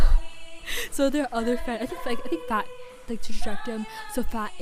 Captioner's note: stammers